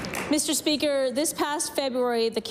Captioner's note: applause